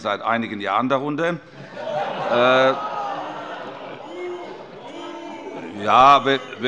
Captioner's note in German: Heiterkeit und Zurufe: Buh!